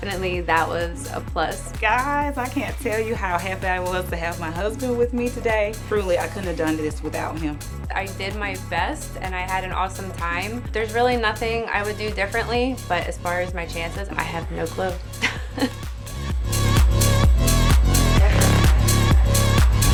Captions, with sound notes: So definitely that was a plus. - Guys, I can't tell you how happy I was to have my husband with me today. Truly, I couldn't have done this without him. - I did my best and I had an awesome time. There's really nothing I would do differently, but as far as my chances, I have no clue. (laughs) (energetic music)